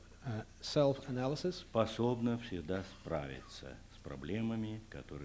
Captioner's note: non-english speech